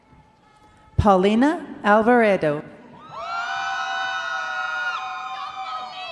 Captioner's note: crowd cheering